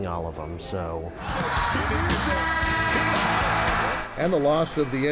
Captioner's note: crowd cheering